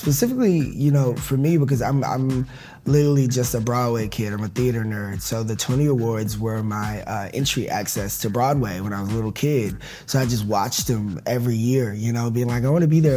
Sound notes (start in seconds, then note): none